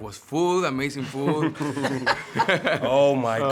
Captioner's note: cast laughing